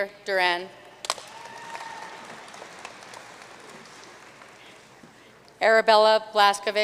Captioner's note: audience cheering and applauding